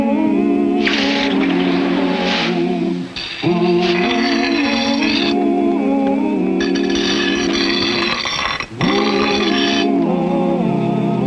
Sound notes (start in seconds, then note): 0.8 iron sizzling; 6.0 gentle vocal music; 6.6 knife scraping